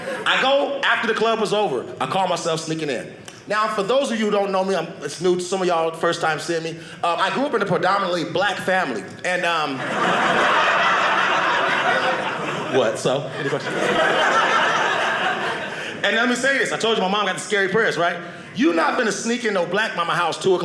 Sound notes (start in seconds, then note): 9.7 audience laughing